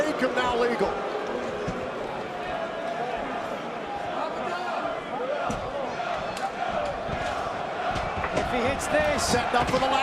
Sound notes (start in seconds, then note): 3.4 crowd chatter